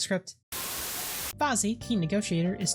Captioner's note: Static